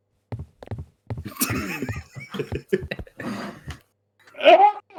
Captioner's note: snickering, wheezing, laughing